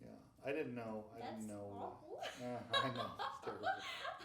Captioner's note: laughing